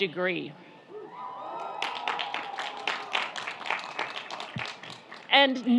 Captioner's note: audience cheers; audience applauds